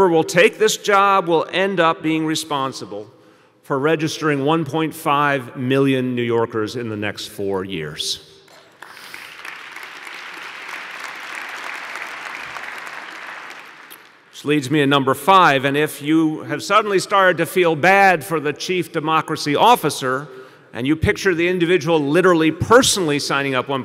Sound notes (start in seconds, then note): 15.3 applause